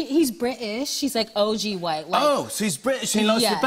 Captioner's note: British accent